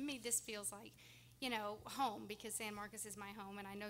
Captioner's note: none